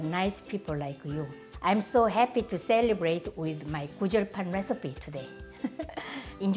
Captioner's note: laughs